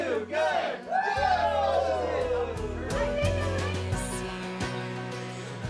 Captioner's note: everyone cheers